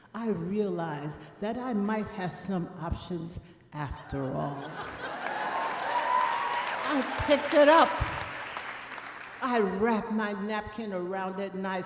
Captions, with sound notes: I realized that I might have some options after all. (audience applauding) I picked it up, I wrapped my napkin around and then I said,